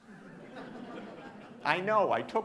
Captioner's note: audience laughing